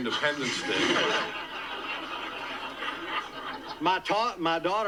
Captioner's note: audience laughs